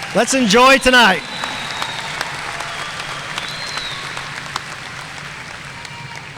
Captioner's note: audience cheering and applauding